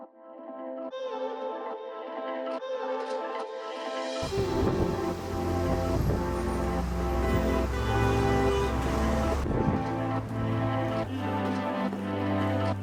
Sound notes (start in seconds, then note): 0.2 calm pulsing music; 7.5 horns honking; 9.9 upbeat music